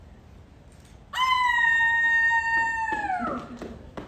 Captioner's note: howls; clapping and chuckling